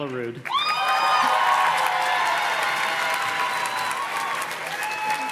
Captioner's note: audience cheers and claps